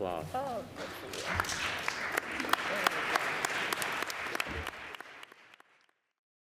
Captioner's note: applause